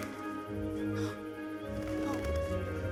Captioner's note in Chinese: 喘息声